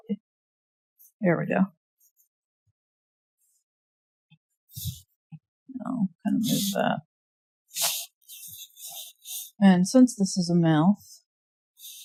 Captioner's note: drawing noises, mumbling